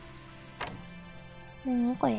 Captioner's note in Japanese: スイッチを踏む音